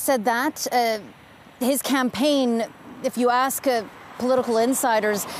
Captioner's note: speaking French